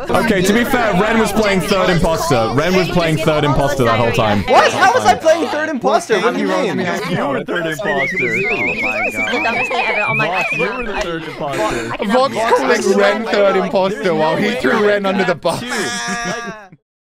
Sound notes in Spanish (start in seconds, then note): 7.7 risa de tetera